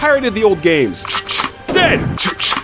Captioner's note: reload